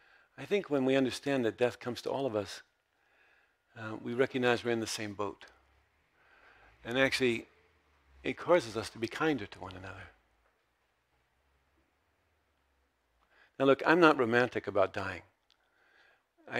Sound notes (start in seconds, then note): none